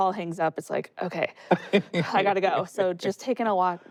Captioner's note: laughs